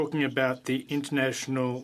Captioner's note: speaking French